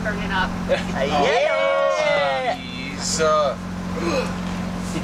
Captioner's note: screaming; gasp